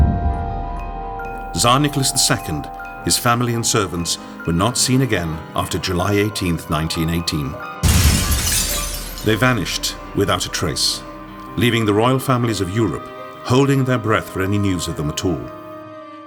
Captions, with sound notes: Tsar Nicholas II, his family and servants were not seen again after July 18th, 1918. [glass smashing] They vanished without a trace leaving the royal families of Europe holding their breath for any news of them at all.